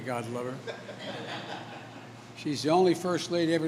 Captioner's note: laughter